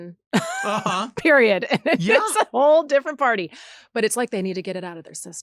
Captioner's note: laughs